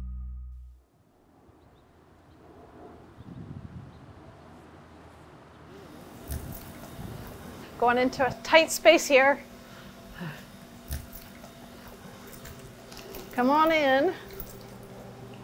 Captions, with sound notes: (wind whooshing) Going into a tight space here. Come on in.